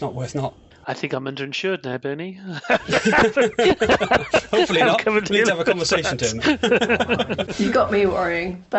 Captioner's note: laughter